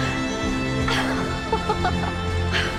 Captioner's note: gasps; Jana chuckles